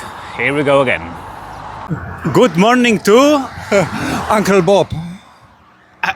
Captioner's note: in English